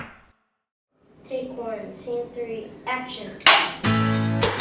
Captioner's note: clapperboard snaps